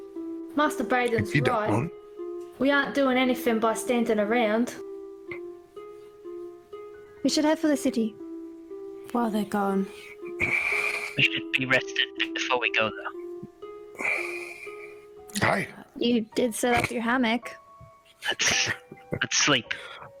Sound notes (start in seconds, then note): 10.4 sighs; 13.9 sighs